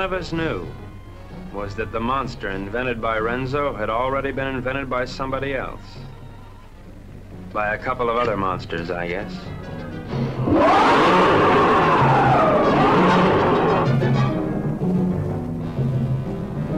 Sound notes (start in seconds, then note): 10.4 monster roaring